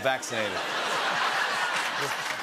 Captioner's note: laughter